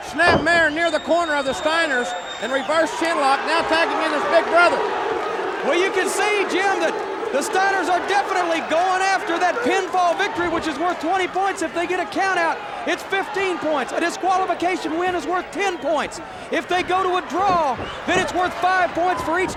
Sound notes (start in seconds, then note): 5.3 audience barks